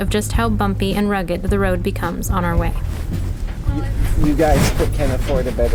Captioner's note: the sound of car tires on a bumpy road